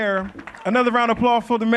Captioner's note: applause